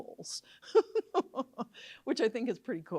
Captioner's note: laughs